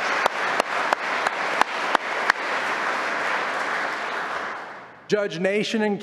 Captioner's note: applause